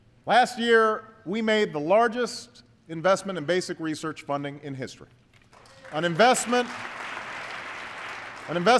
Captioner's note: applause